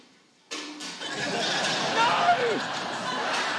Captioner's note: laughter